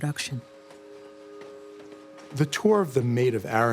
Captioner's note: train whistle blaring